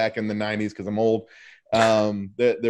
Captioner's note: chuckles